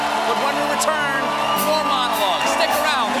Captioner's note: cheers and applause